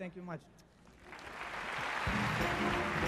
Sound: applause

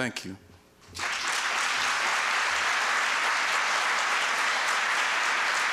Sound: applause

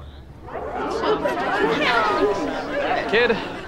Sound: chattering

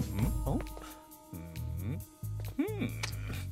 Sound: humming

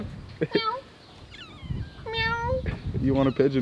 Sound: cat meowing

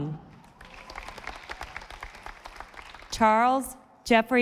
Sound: audience applauding

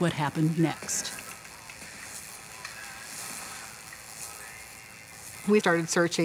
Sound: TV static

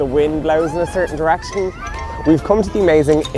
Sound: screaming

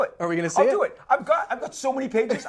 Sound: laughs

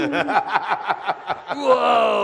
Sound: audience laughter

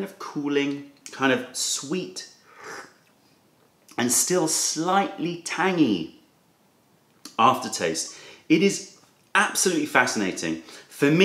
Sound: sips tea

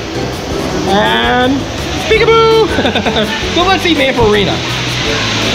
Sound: laughs

